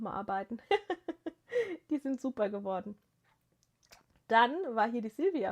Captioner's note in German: gelächter